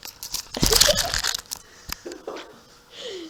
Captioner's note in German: Lachend